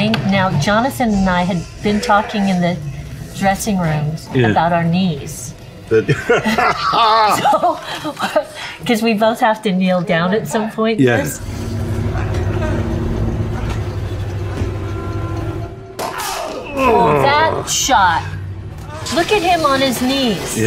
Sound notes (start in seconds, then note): 5.9 Liam laughs; 16.1 shouting; 16.7 Liam grunts